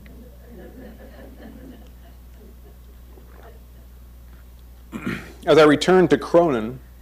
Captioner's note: crowd chuckles